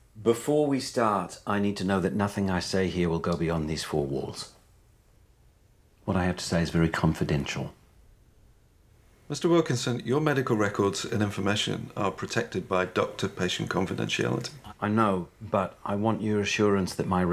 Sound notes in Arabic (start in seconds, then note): none